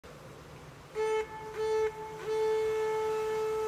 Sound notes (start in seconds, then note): 0.9 viking horn